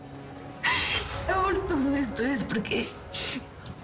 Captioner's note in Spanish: Sollozos